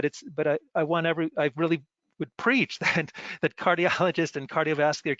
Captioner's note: laughs